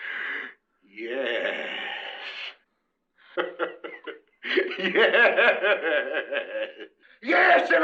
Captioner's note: laughter